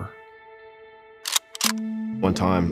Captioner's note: gun clicks